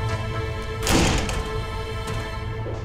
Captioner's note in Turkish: Kapı kapanma sesi